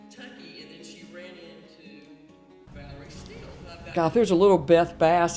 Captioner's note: background speaking